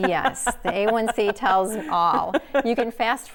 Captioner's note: laughing